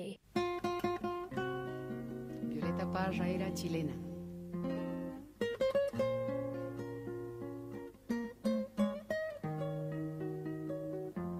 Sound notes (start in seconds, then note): 0.3 light music; 2.7 speaking foreign language; 4.9 light music